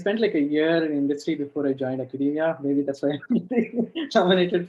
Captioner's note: laughs